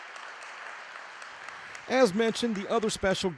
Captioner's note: sound of Audience Clapping